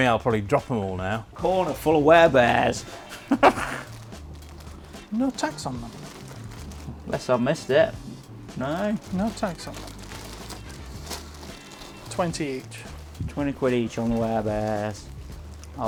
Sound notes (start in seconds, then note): 3.0 chuckles